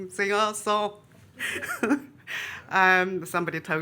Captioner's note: laughs